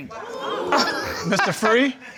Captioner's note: audience gasping